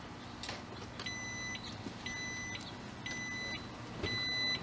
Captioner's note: car beeps